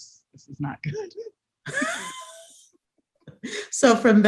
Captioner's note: both laugh